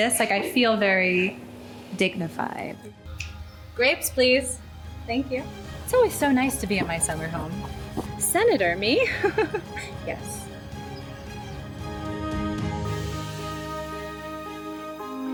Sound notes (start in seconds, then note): 9.5 chuckles; 12.3 uplifting music